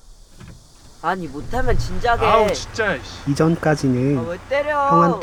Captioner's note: hitting